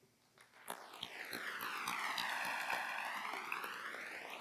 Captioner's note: applause